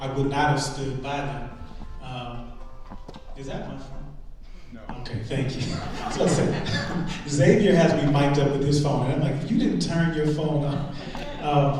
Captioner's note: phone rings